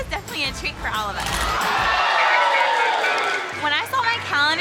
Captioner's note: group cheers